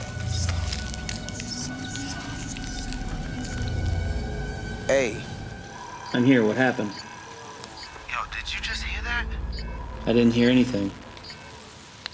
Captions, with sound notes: (faint whispering) Aye! I'm here. What happened? (radio) Yo! did you just hear that? I didn't hear anything.